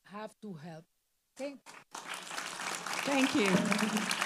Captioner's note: audience applauding